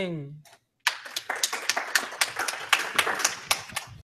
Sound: applause

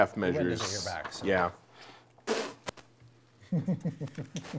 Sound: laughing

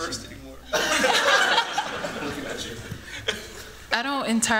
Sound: laughter

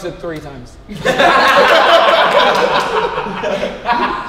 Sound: group laughs

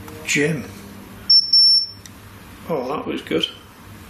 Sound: metre beeps

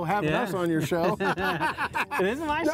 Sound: both laughing

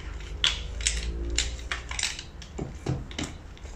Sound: poles clacking

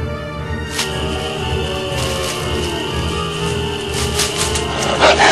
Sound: crickets chirping; distant howling; dogs snarling

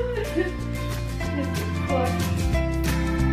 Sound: laughing

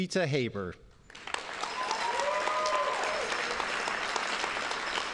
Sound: audience applauding

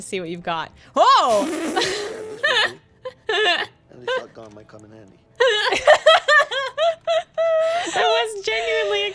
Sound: laughter

